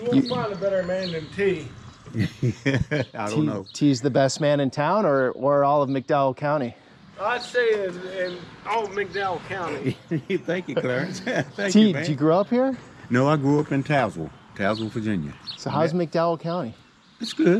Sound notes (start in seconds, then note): 2.0 laughing; 8.8 laughing